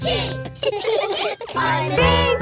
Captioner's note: all laughing